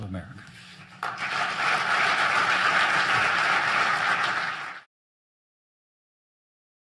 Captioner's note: applause